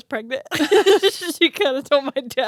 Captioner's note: both laugh